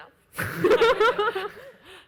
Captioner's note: laughs